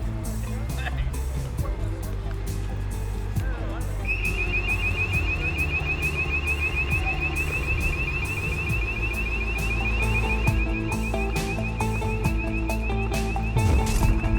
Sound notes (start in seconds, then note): 0.1 men chatting; 4.4 alarm ringing; 11.0 upbeat gentle music